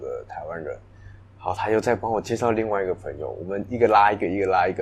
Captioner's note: Taiwanese